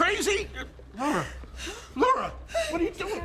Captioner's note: breathing heavily